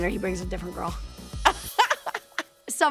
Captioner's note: laughs